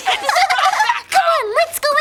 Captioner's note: triplets giggling